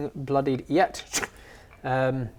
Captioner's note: shoop